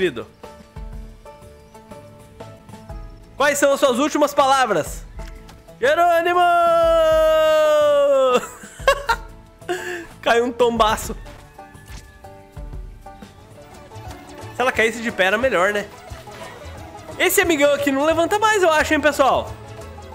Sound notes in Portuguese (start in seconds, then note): 8.3 risos